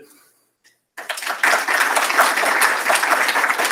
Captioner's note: applause